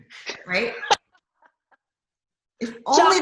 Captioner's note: laughs